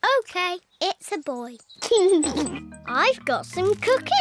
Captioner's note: giggles